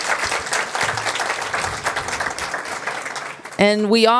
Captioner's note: applause